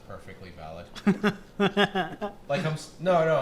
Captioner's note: laughter